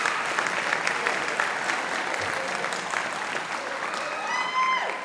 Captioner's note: audience applauding